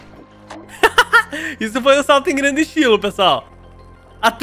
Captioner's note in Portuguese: risos